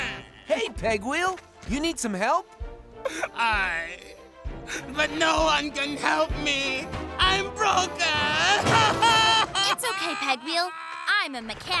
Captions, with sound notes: Hey Pegwheel, you need some help? Aye! But no one can help me! I'm broken! [sobbing] It's okay Pegwheel, I'm a mechanic.